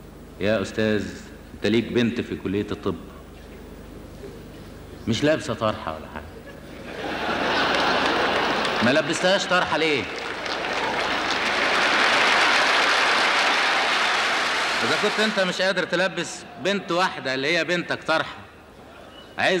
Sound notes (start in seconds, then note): 6.4 audience laughter; 11.9 applause